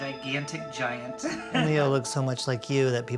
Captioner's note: laughing